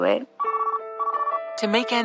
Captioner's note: phone rings